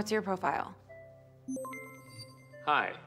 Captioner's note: system beeps